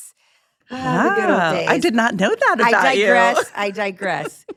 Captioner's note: sighs